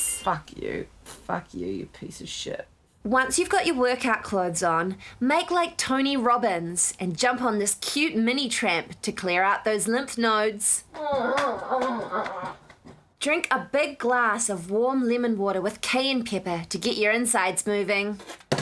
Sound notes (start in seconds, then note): 10.9 groaning